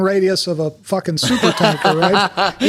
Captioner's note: Paul laughing